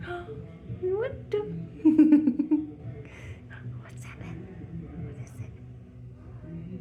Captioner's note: laughter